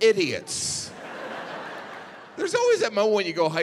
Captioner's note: audience laughing